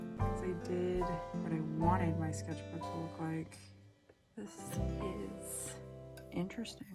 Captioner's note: none